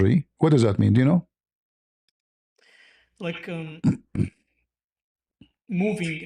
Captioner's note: Arabic; clears throat